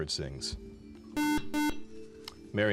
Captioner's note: beep